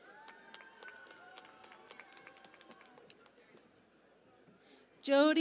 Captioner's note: cheering and Applause